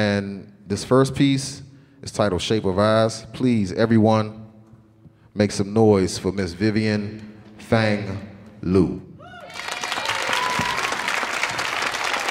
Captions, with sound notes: And this first piece is titled "Shape of Eyes". Please everyone make some noise for Miss Vivian Fang Liu. (audience cheering)